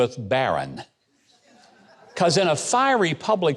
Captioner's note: audience laughing